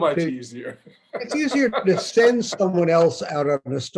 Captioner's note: laughs